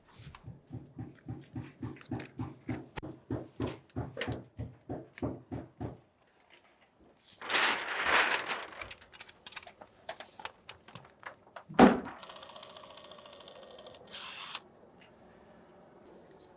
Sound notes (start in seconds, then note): 0.4 hammering sounds; 7.2 paper rustling; 11.7 caulking gun running